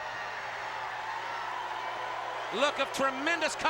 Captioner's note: crowd boos